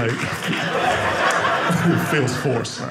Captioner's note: audience laughing